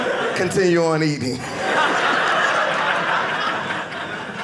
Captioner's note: audience laughing